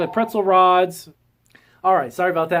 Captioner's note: phone ringing